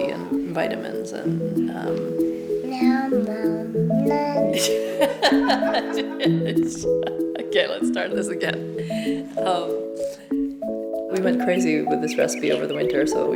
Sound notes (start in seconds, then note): 4.5 laughing